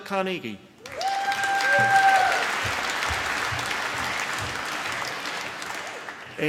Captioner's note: applause